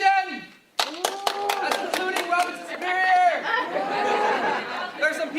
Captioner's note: clapping and cheering